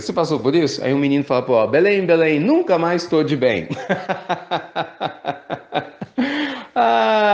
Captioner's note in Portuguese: risos